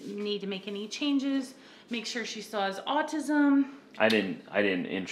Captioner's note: kisses